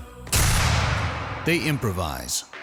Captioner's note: gunshot